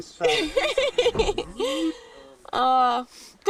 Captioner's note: laughter